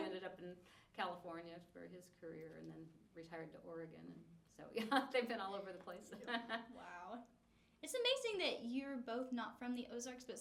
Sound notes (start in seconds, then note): 4.8 laughs